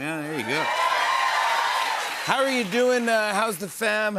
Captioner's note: cheers and applause